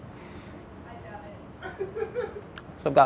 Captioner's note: man laughs